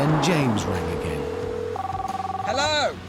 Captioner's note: phone rings